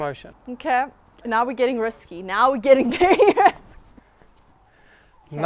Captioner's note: chuckles